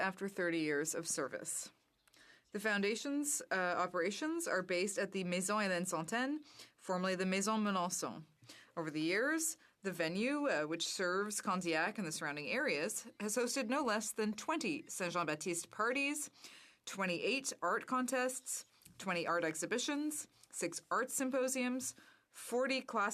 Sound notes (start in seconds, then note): 13.2 speaking French